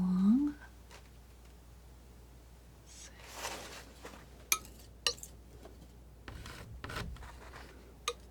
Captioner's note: scratching